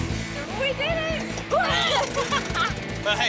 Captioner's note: fake retches